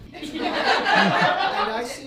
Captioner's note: audience laughing